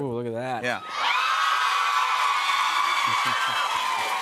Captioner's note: cheers and applause